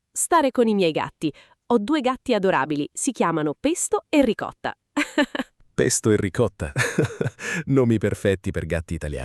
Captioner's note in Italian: risate